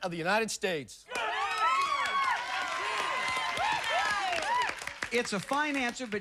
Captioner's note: cheers and applause